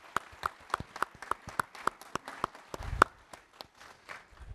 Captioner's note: applause